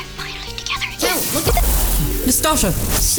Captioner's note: zap